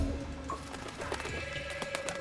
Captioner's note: fluttering